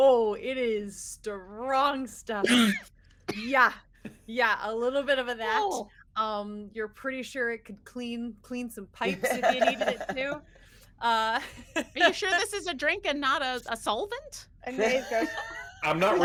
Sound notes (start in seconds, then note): 2.4 Neb coughs